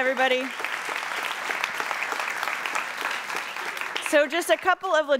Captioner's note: applauding